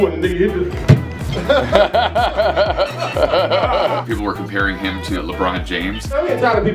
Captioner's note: laughter